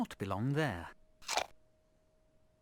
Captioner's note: apple munching sound